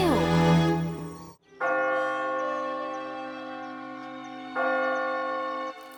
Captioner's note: bell ringing